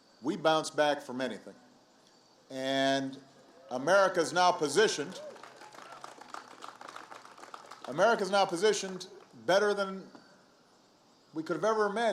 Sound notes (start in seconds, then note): 5.0 applause